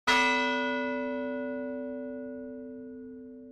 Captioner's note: bell tolls